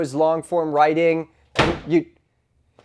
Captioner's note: door slamming